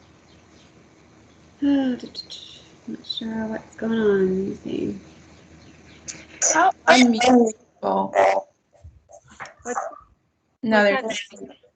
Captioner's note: grumbling